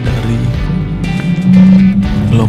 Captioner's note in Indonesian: suara mobil